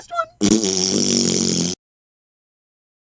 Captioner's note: wonderful blowing raspberries sound